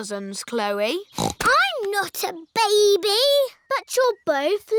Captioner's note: snorts